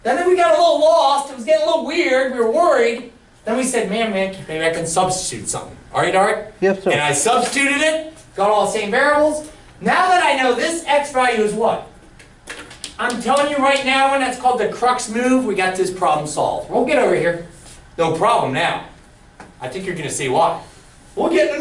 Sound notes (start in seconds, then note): 7.3 voiceover